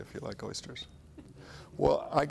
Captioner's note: chuckles